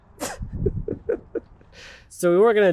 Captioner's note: laughing